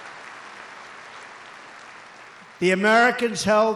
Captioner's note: applause